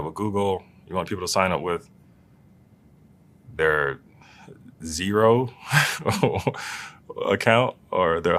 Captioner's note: laugh